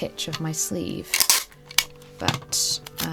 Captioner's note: tape pulling and ripping